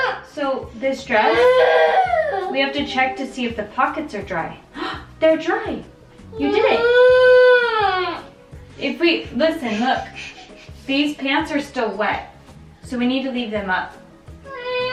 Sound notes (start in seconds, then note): 7.7 fussing